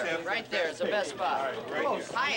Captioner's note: crowd talking over one another